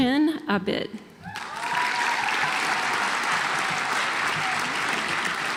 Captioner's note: audience applauds